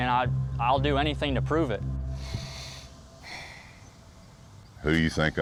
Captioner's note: sighs